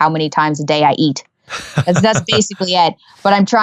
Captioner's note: laughing